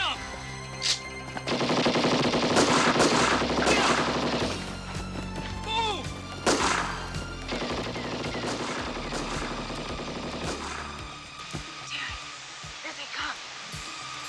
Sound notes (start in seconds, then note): 1.5 guns firing